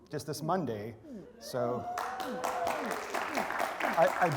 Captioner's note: applause